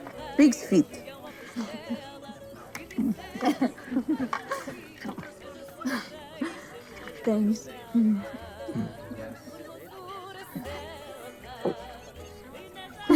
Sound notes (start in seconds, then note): 1.6 laughing